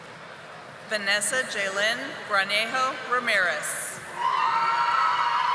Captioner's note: audience applauding